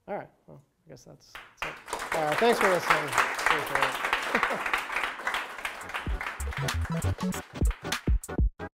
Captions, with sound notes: *applause* Thanks for listening! (more applause)